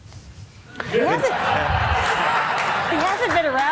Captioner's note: laughter